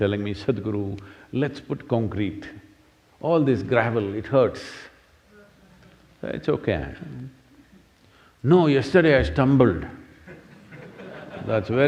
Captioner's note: laughter